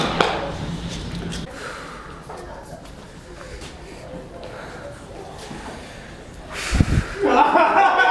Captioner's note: stressed breathing